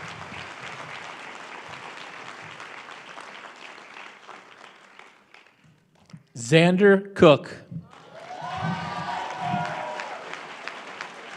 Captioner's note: applause